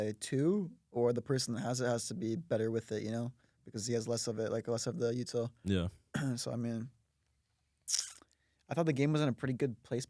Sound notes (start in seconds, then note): 6.1 clears throat; 7.8 smacks lips